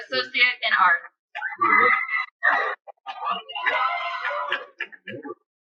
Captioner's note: cheering